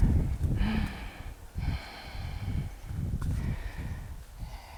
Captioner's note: deep breathing